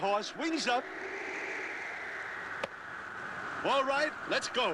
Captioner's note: wind howling